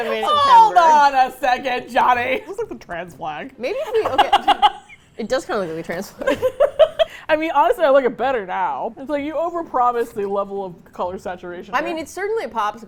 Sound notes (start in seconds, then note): 0.0 laughs; 3.9 laughs